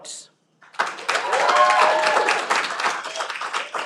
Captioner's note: cheering